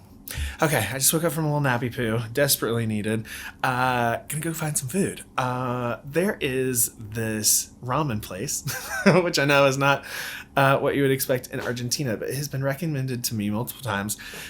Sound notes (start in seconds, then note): 8.5 laughs